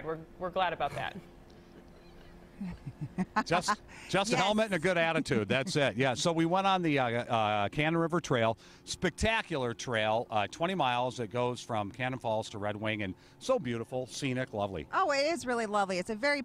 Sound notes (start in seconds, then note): 6.6 laughter